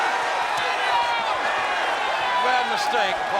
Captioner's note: crowd cheering